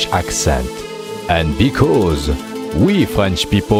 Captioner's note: French